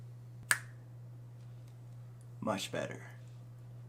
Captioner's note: snaps fingers